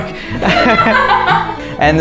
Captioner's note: laughter